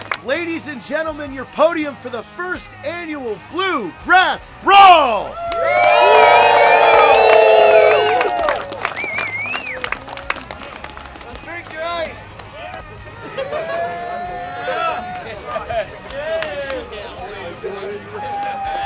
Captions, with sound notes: Ladies and gentlemen, your podium for the first annual Bluegrass Brawl. [CHEERING]